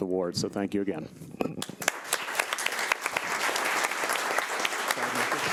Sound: audience clapping

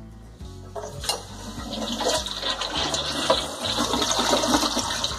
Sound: toilet flushes

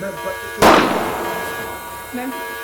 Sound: gun shot

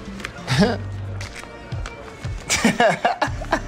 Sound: laughs

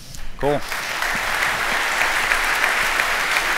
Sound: applause

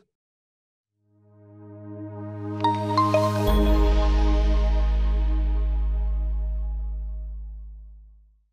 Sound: logo chiming

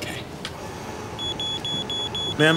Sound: beeping

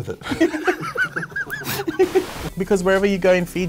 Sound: both laughing

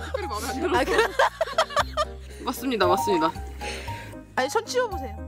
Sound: laughing

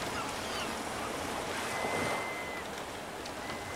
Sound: water splashing

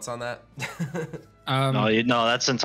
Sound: chuckles

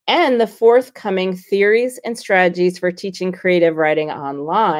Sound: none

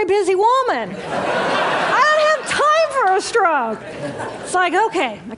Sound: laughter

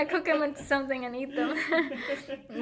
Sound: laughing

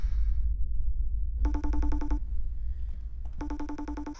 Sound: ringing Phone

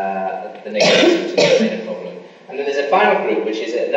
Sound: coughing masks speaker

